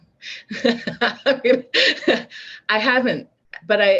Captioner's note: laughs